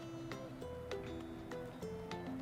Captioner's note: none